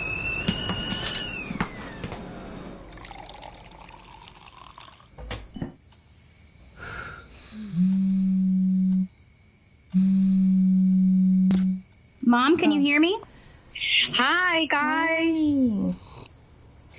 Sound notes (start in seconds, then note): 2.8 pouring water; 7.9 phone vibrating